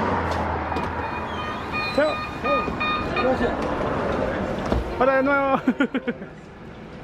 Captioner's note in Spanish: risas